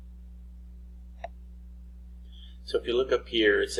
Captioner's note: mouse clicking